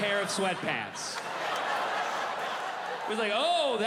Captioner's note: audience laughing